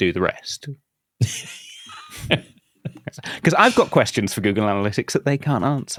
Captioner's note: laughs